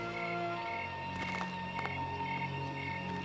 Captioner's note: patting